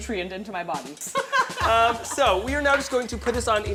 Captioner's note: laughs